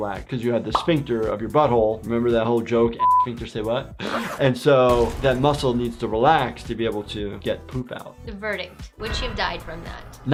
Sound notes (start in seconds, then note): 3.0 beep